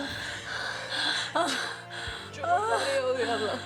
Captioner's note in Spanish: Sollozos